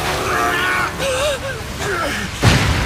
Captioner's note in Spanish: Midoriya Suspira